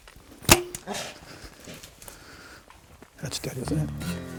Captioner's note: bear grunts